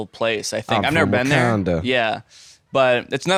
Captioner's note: southern accent